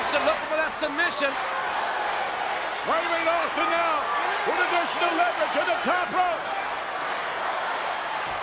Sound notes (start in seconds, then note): 3.0 crowd chanting drowns out commentator